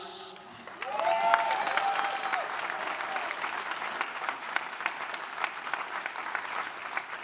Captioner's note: audience applauding; audience cheering